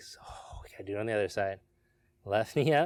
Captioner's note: exhales sharply